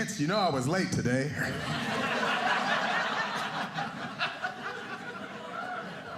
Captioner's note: audience laughing